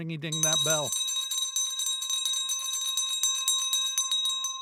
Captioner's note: bell ringing